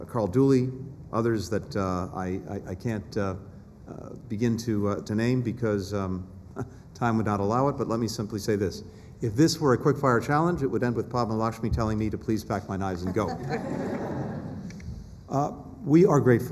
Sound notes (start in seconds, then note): 13.0 laughter